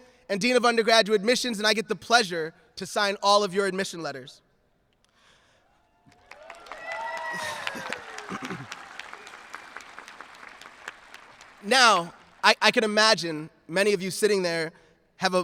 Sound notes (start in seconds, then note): 6.0 audience cheering